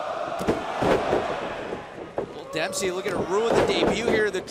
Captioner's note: crowd cheering